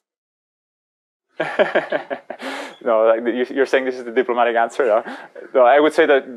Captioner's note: laughs